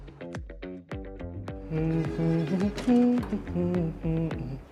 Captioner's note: wordless humming